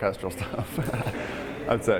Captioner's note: laughing